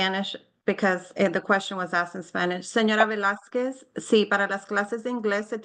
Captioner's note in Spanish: habla en español